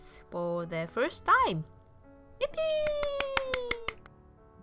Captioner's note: clapping